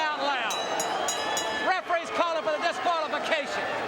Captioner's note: bell ringing